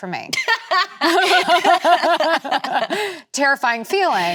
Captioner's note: both laughing